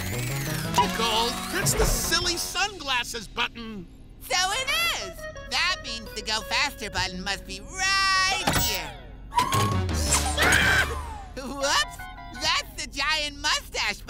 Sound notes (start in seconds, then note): 10.3 screaming